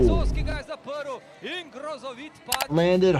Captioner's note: commentator speaking in foreign language